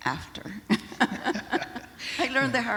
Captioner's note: laughter